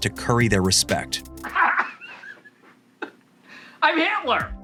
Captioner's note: laughing